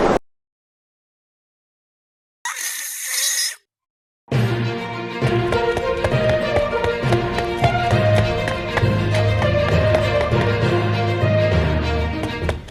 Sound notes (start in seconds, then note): 2.4 googly eyes spin / screaming in pure frustration